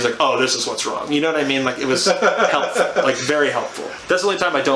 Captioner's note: laughs